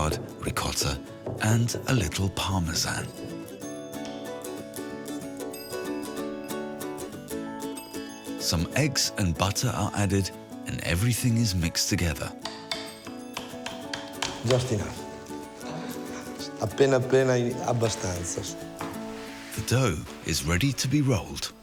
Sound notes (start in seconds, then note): 14.7 speaks in foreign language